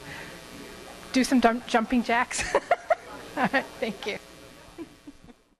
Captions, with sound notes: Do some jumping jacks. (laughter) (crowd laughs) Thank you.